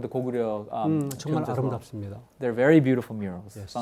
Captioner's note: speaking in Korean